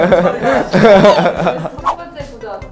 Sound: laughing

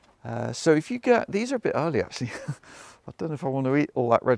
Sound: chuckles

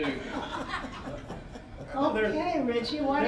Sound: all laughing

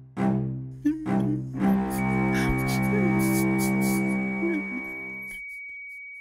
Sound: cries

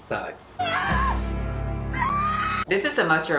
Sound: screaming

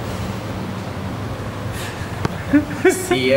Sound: laughing

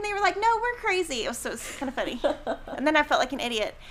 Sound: laughing

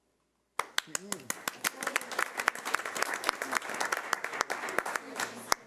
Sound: audience applauding

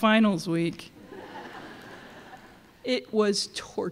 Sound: laughter

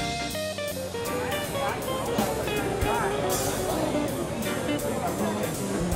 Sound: people talking in distance

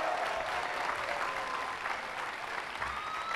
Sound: applause

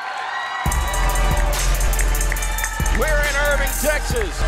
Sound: crowd cheering

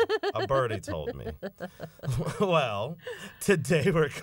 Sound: laughter

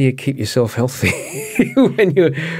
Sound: laughs

